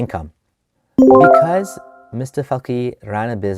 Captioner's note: loud ding